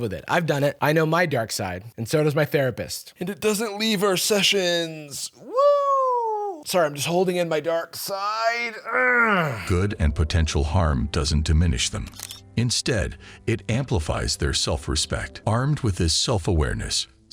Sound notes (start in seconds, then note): 8.6 groans